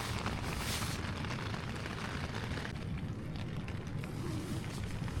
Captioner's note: it's raining